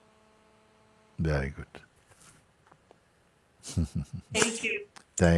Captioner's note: lacht